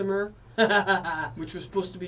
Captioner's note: laughs